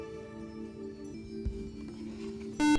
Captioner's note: buzzer